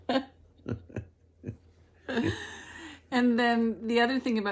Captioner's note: both laugh